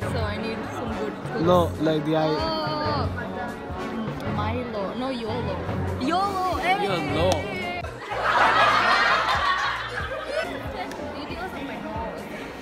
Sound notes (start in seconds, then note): 7.9 VERY LOUD Laugh Track